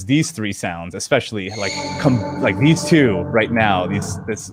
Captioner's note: eerie sounds playing